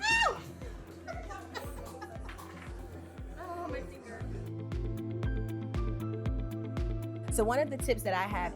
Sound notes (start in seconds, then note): 1.0 laughing; 5.9 upbeat music